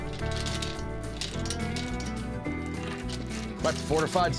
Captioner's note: chain clinks